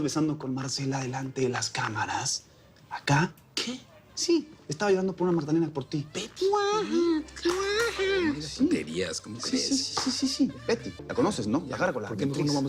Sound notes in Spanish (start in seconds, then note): 6.0 Imita el llanto de un bebé